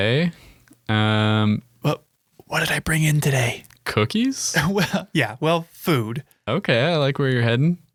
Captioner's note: whispering